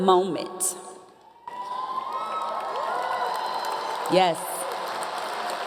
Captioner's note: audience Cheering